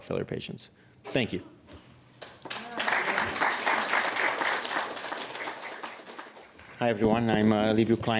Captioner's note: applause